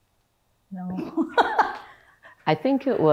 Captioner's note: laughs